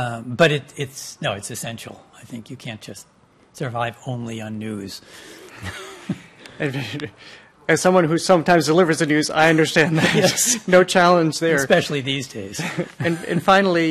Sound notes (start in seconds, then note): 5.5 chuckles; 9.4 laughs